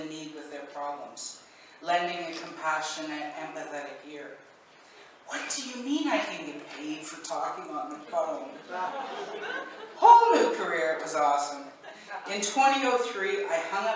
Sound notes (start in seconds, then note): 8.5 laughter